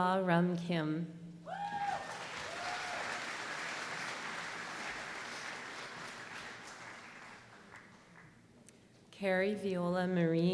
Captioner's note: applause